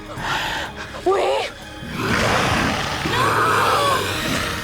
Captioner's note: growls loud